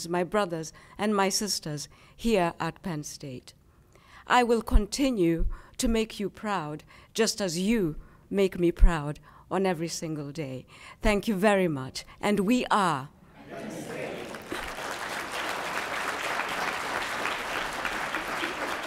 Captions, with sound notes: my brothers and my sisters here at Penn State. I will continue to make you proud just as you make me proud on every single day. Thank you very much. And we are. - [Crowd] Penn State. (applause)